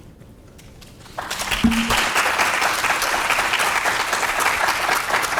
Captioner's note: audience clapping